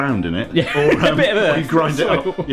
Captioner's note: laughing